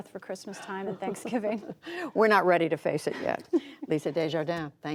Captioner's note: laughter